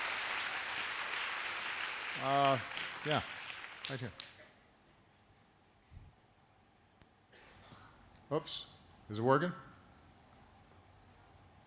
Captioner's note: applause; applause